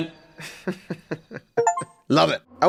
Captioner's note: laughs